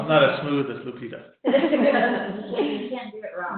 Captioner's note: laughing